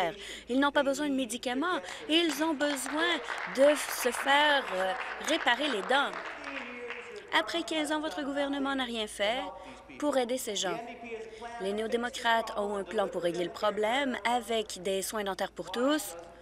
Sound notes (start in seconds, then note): 6.0 applause